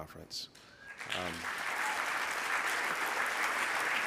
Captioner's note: clapping